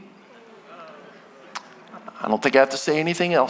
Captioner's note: audience groaning